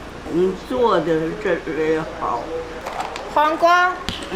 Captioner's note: speaking Chinese; grandma speaking Chinese; speaking Chinese